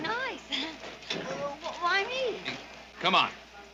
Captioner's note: chuckles